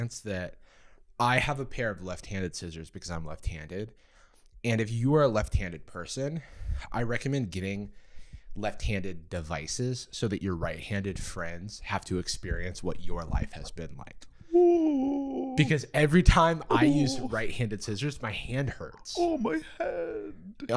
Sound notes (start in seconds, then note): 16.6 fake-crying; 19.3 whiny